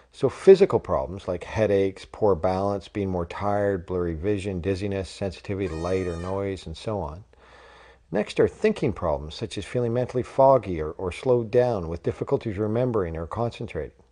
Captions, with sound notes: So, physical problems like headaches, poor balance, being more tired, blurry vision, dizziness, sensitivity to light or noise, [horn] and so on. Next are thinking problems such as feeling mentally foggy or, or slowed down with difficulties remembering or concentrating.